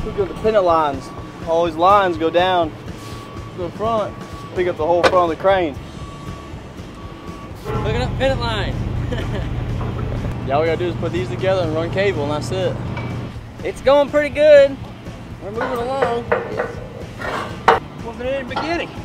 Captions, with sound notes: hooking up pendant lines, these lines go down to the front and pick up the whole front of the crane. Hooking up pendant lines. [laugh] All we gotta do is hook these up and run cable and that's it. It's going pretty good. We're moving along.